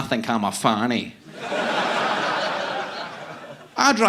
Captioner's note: audience laughing